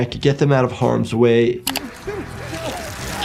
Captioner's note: mouse clicking; tense music; victim yelling